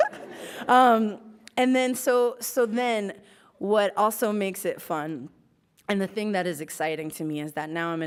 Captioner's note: laughs